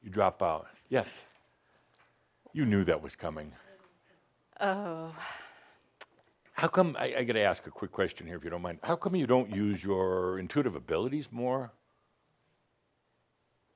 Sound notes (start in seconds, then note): 4.6 she sighs